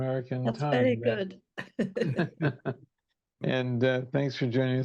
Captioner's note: chuckling